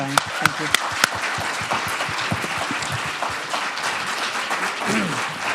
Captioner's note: students applauding